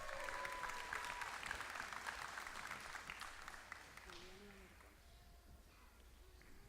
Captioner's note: applause